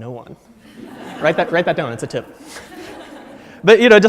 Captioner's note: audience laughs